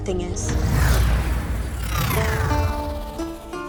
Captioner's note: warp noise; medieval music